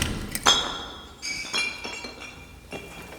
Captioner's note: bottle clatters, bounces on concrete